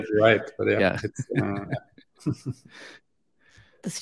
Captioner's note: laughing